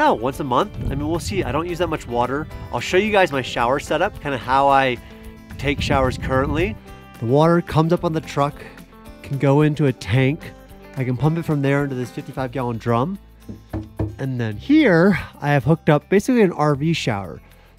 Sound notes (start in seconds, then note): 13.4 thudding on plastic drum